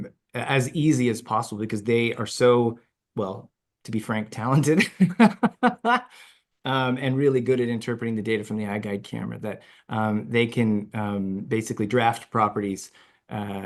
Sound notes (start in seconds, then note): 4.8 laughs